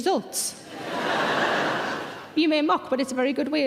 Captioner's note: audience laughter